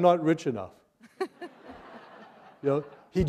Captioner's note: laughter